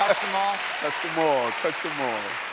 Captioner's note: applause